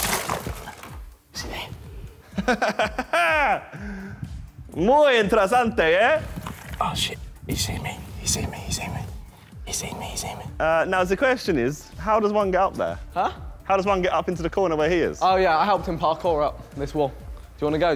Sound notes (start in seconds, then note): 4.9 speaking Spanish